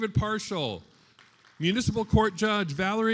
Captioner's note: attendees applauding